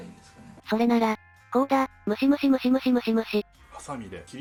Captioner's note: plucking sound